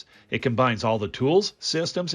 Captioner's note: voiceover